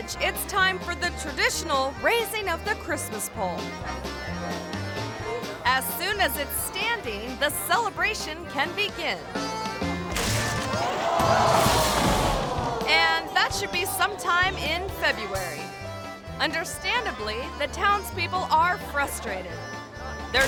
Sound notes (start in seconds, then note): 10.1 pole snaps; 10.8 audience gasps